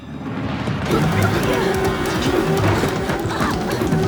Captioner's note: both grunting